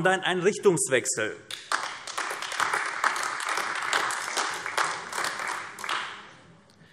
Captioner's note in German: Beifall AfD